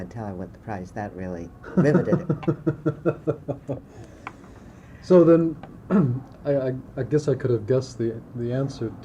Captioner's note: laughter